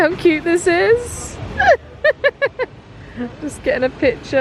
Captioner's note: laughs